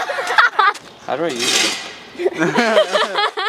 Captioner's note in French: rires